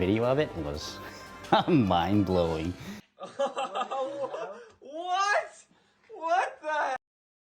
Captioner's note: laughs